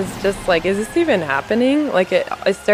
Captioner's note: laughs